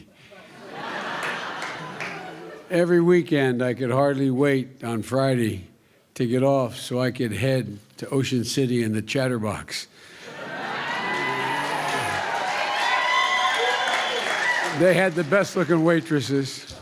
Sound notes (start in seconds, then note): 0.4 laughter; 10.3 cheers and applause